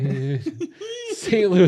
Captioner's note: giggling